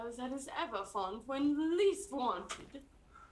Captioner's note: laughs